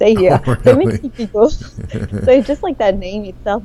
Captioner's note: laughs